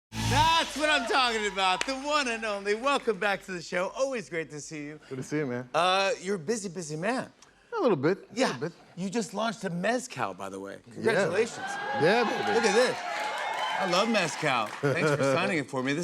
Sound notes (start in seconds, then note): 11.3 cheers and applause